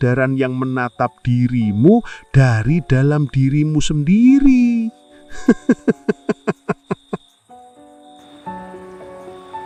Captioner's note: laughter